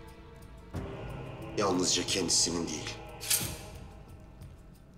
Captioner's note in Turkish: Hançer çıkarma sesi